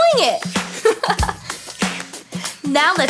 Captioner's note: narrator giggling